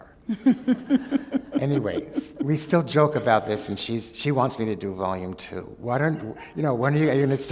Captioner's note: laughter